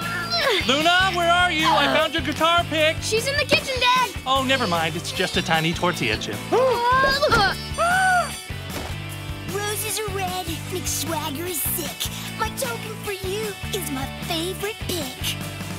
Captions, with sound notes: Luna, where are you? I found your guitar pick. She's in the kitchen, Dad! Oh, never mind. It's just a tiny tortilla chip. [gasping] Roses are red, McSwagger is sick, My token for you is my favorite pick.